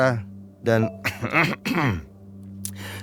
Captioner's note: Tio Pakusadewo coughs